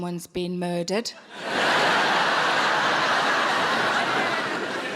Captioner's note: audience laughing